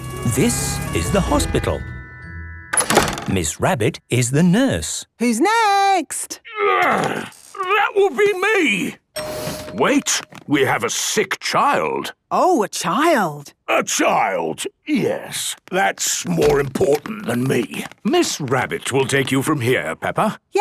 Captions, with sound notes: - (siren sounding) - This is the hospital. - Miss Rabbit is the nurse. - Who's next? - Groan! That would be me. - (door dings open) - Wait! We have a sick child! - Oh! A child! - A child, yes... That's more important than me. - Miss Rabbit will take you from here, Peppa.